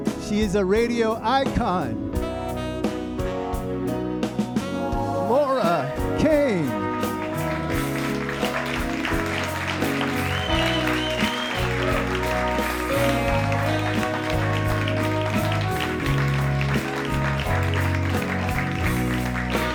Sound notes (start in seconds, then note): 2.0 warm music; 7.5 audience applauding